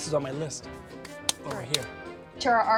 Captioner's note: claps hands to remove dust